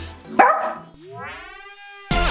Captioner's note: bark!